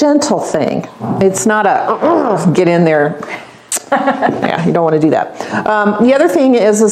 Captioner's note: grunting